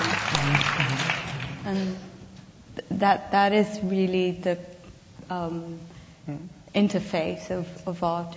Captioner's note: audience applause